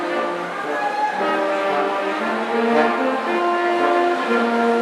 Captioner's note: audience cheering